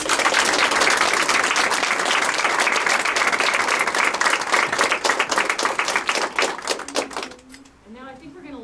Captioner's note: applause